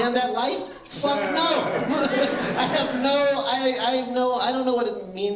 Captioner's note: laughter